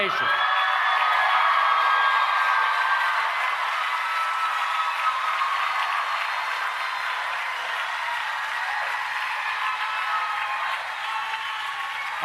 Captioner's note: cheering and Applause